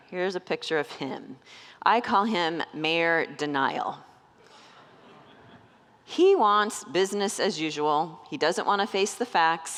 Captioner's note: congregants laugh